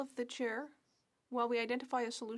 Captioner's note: speaking French